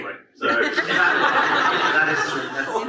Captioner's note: audience laughs